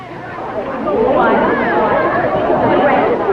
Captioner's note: crowd murmuring